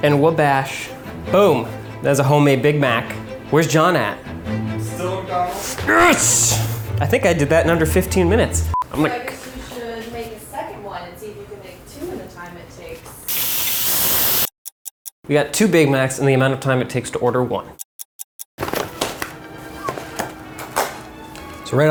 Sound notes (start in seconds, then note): 7.0 beep; 13.3 meat sizzling; 14.5 clock ticking; 17.7 clock ticking; 18.9 dramatic orchestral music